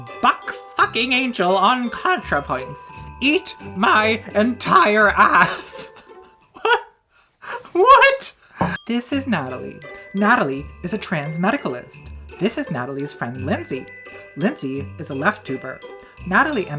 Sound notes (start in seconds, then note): 6.4 laughing